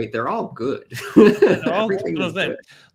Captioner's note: laughs